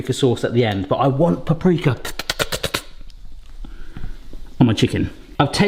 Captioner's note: mimics Hannibal Lecter hiss